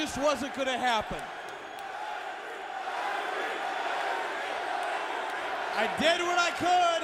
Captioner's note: crowd cheering